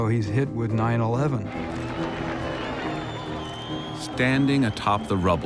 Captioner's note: crowd cheering